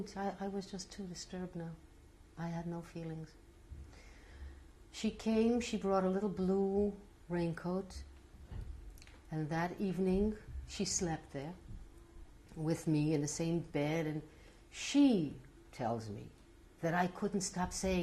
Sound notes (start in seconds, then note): none